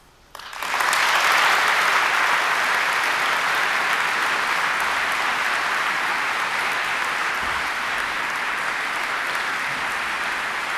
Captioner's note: applause